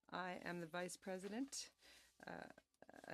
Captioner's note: speaking French